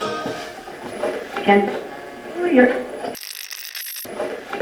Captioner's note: radio channel changing; radio scratching